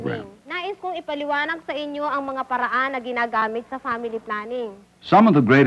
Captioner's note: non-English speech